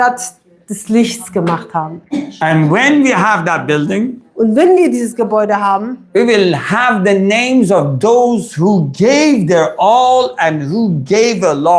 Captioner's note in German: räuspern